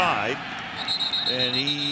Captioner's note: whistle blows